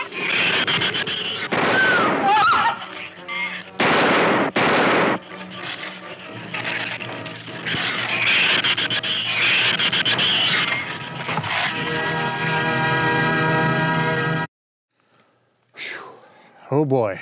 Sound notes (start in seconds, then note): 0.0 shrews squealing; 1.3 gun firing; 1.8 woman screaming; 5.4 shrews squealing; 11.4 dramatic music; 15.8 exhaling dramatically